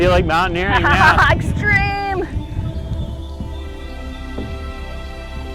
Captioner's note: laughing